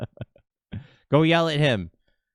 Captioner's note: laughs